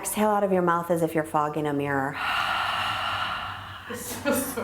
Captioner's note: exhaling loudly